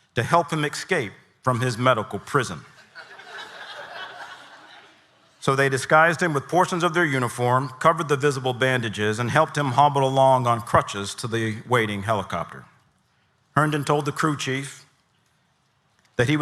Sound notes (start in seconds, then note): 2.8 audience laughing